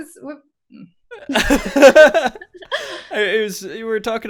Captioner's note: laughs